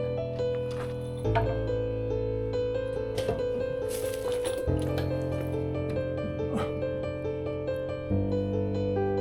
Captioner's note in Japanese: 絶望のうめき声